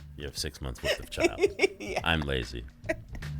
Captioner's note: laughing